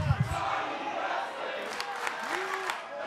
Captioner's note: crowd cheering